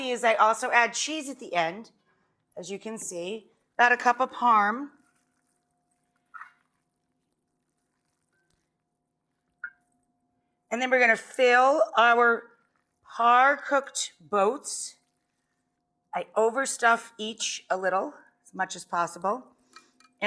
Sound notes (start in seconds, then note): 6.0 stirring food mixture